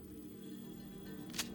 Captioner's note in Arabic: تسليح البندقية